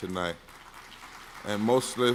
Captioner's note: scattered clapping